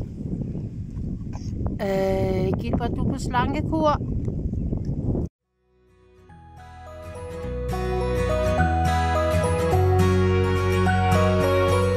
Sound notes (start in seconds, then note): none